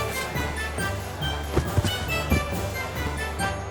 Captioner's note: playful music; skier thuds; playful music